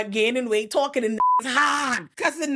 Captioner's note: beep